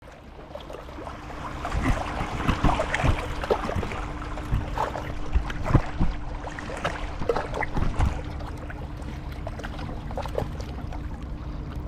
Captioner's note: sound of water, distant hum of traffic